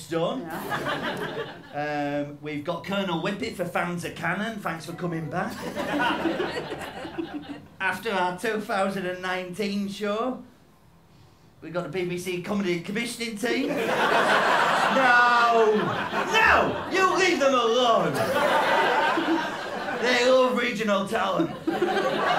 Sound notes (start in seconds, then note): 0.5 laughter; 4.8 audience cheers; 13.6 laughter